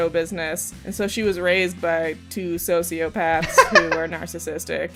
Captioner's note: laughter